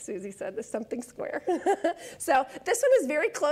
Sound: laughs

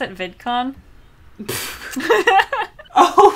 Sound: both laugh

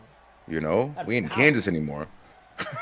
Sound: laugh

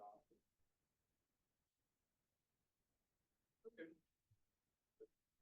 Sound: audio cuts out

